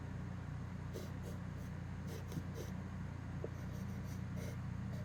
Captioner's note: pencil scratches